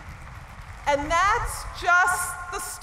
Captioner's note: cheering and applause